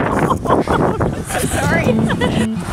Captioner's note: laughing